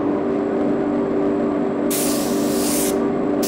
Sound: repeated hissing, background hum

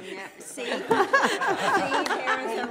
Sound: laughter

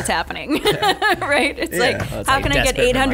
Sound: laughing

